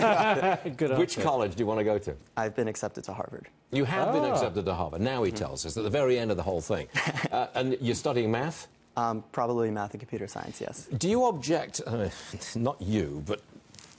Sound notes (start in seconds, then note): 6.9 laughter